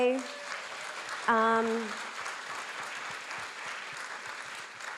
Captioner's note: audience clapping